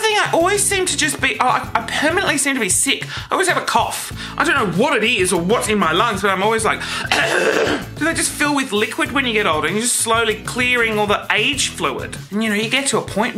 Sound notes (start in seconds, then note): 6.9 coughs